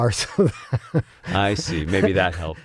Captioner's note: laugh